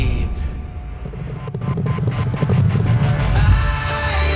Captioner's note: horses Galloping